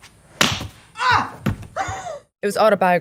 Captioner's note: slap sound; gasp